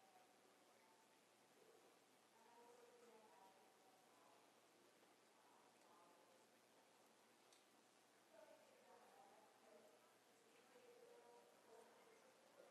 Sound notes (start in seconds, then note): none